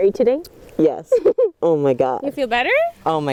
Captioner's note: laughing